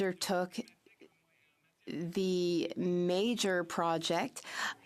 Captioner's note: speaking French